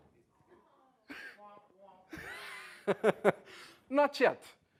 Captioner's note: laugh